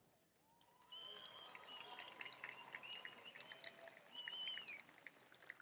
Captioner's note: applause